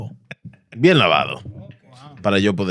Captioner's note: speaking In Foreign Language